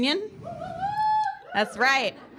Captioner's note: audience cheers